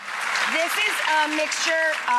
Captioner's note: audience applauds